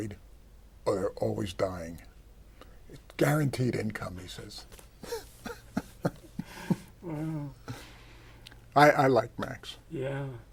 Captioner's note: laughs